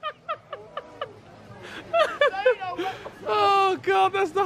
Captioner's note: laughs